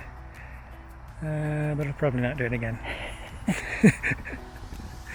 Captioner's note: laughing